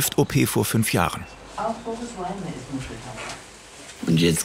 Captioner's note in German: Stimmen aus dem Fernseher